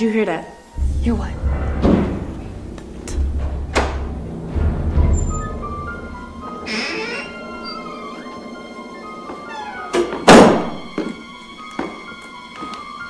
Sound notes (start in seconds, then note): 0.8 object thuds; 4.6 door unlocks; 7.0 door creaks